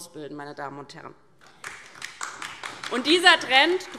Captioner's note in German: Beifall DIE LINKE